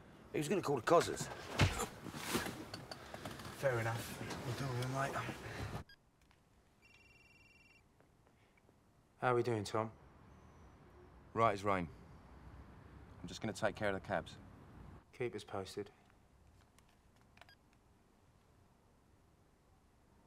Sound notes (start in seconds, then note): 6.8 line ringing